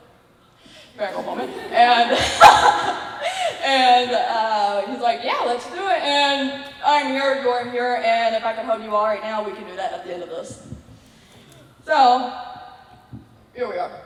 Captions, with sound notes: Fangirl moment. And.. (laughs) And he was like "yeah, let's do it." and I'm here, you're here and if I could hug you all right now, we can do that at the end of this. So...here we are.